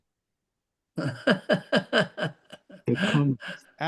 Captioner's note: laughs